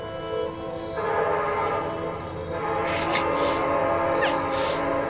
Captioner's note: horn blaring louder